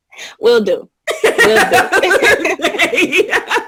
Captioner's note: laughter